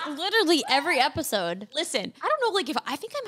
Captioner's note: laughs